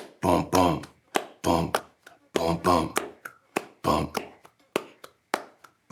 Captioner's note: imitates rhythmic bass drum beat